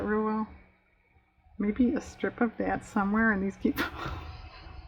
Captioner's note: laughs